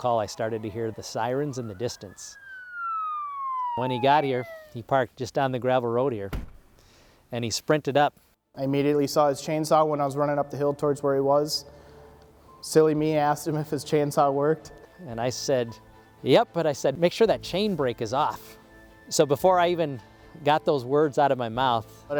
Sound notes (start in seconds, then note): 2.7 sirens blaring; 6.3 door thudding